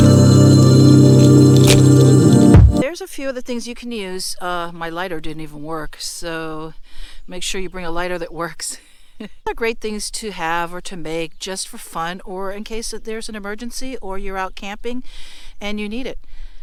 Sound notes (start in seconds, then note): 8.6 laughing